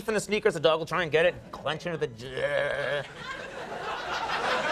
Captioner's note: growls; audience laughing